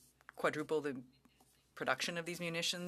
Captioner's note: speaking French